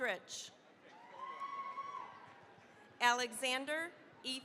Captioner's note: cheering, applause